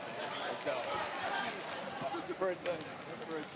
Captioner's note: chatter